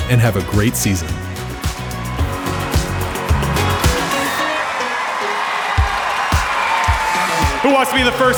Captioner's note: crowd cheering